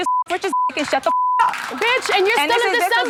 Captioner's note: beep